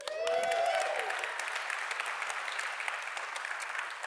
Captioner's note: audience applauding